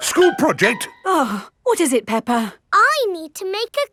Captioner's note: gasps; sighs